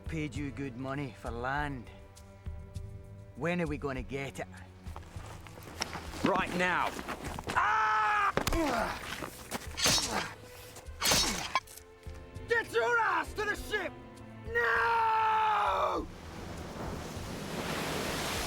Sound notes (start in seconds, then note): 7.6 man screams; 8.6 weapon slices loudly